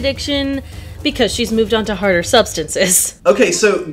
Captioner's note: laughs